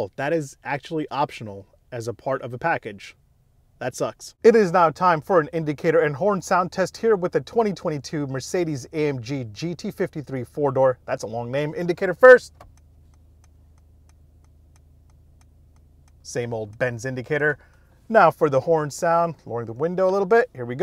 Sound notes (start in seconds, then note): 12.2 indicator clicking